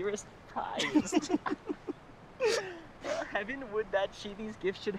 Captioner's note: giggling